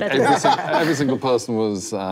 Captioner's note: laughing